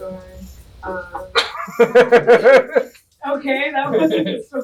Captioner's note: unprovoked laughter